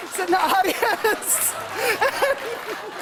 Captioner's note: laughter